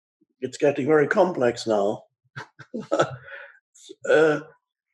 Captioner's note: laughs